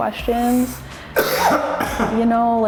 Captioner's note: coughs